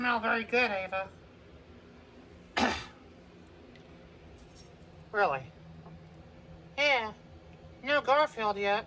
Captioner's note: clears her throat